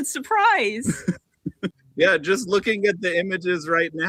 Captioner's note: laughter